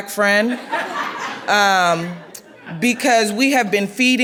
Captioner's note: laughing